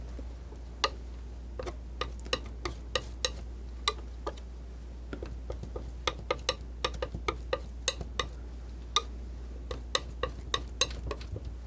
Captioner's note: scratching